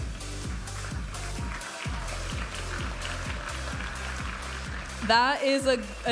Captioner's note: audience applauding and cheering